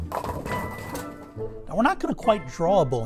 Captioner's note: pins crashing